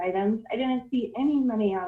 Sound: distortion

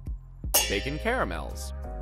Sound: pans clanging

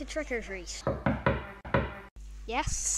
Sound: knock Knock Knock!

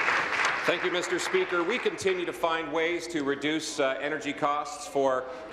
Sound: applause

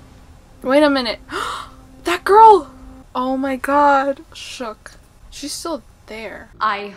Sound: gasp

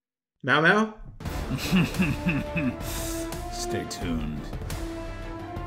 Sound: menacing chuckle

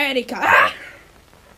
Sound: wrecking ball whoosh

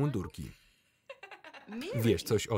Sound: Mary laughs loudly

